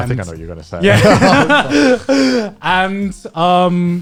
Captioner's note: guys laughing